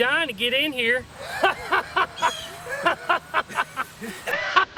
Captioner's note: laughing